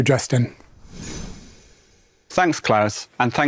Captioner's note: graphics whooshing